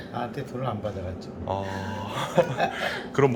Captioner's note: laughing